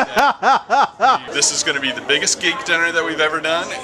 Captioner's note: laughter